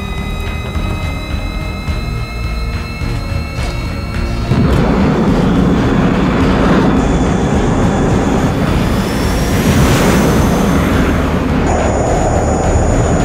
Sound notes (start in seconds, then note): 4.5 engine starts; 10.0 jet taking off